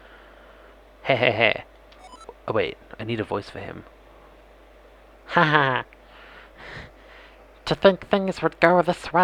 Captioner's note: cartoonish evil vaati voice